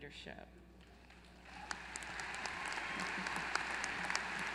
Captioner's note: applause